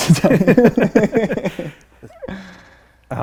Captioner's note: laughing